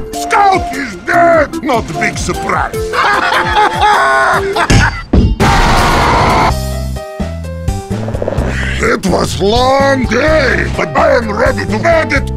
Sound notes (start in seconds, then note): 2.8 happy laughter; 5.4 explosion of fire, hellish scream; 8.0 chair creaks, not mimicking